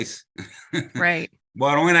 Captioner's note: laughs